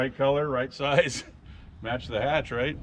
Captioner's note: chuckling